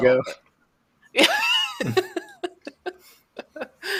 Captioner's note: laughter